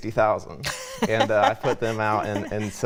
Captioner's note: laughter